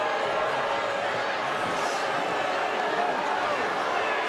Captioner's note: crowd booing